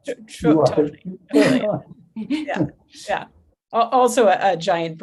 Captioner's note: laughs